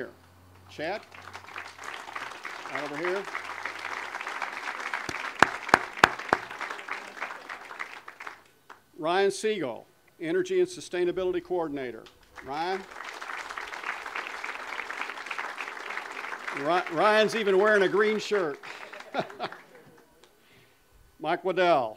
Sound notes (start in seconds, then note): 4.3 audience applause